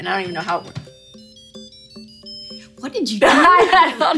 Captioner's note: bell chimes; laughs